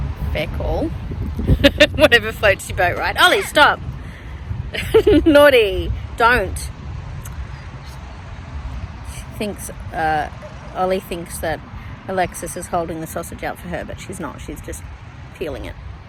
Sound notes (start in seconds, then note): 0.8 chuckles; 4.7 laughing while trying to sound stern; 7.2 clicks tongue